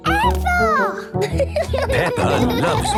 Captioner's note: laughing